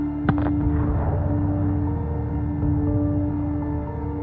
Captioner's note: explosion